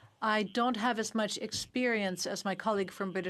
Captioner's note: speaking French